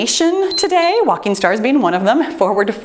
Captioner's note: timer beeps